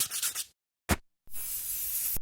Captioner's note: marker scribbling; paint can spraying